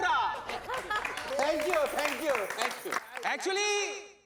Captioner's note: applause